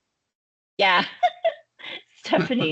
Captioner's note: laughing